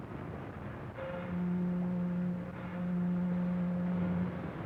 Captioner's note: boat horns blowing